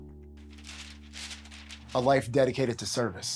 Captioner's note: paper rustling